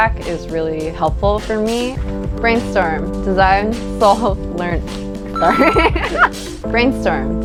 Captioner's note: laughter